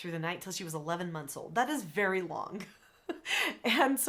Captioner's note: chuckles